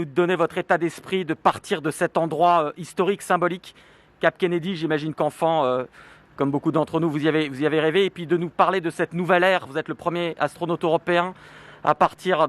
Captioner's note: speaking french